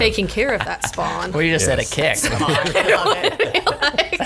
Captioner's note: laughs